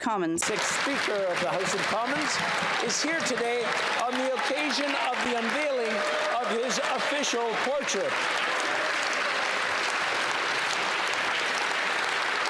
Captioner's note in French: applaudissements